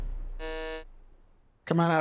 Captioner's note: air whooshes; buzzer buzzes